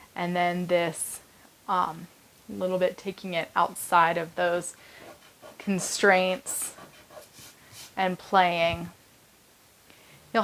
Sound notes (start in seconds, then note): 5.0 fingers rubbing